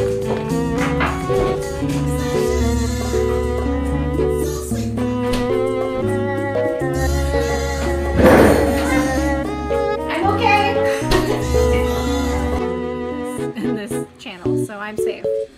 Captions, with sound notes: *crash sounds* hah-HHnah thisshuhhuhthis channel so i'm safe